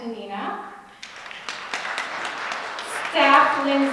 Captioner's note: audience clapping